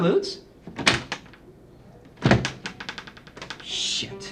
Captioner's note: door rattling